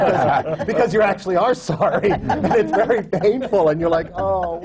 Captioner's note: laughter